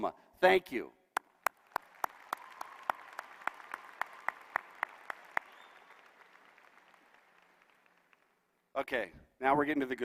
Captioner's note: applause